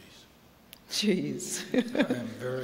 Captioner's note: laughter